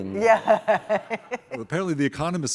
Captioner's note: chuckles